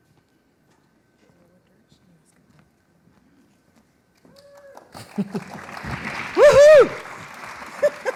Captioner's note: laughter